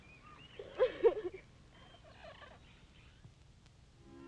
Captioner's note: birds chirping; Pat sobbing